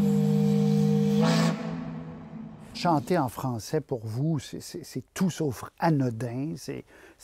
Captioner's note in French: corne de brume